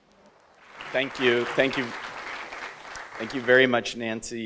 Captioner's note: audience applauds